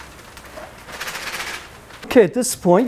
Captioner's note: sizzling